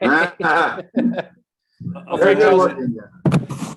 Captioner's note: laughing